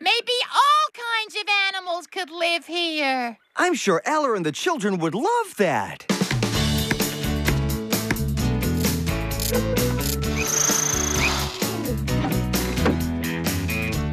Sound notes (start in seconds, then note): 10.3 whirring